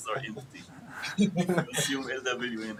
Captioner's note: laughter